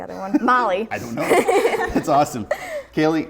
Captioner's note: all laughing